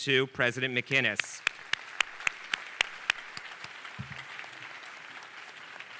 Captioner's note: audience applauding